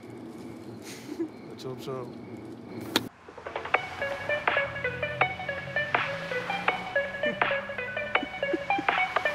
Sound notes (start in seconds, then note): 0.8 Chuckles; 8.0 Both chuckle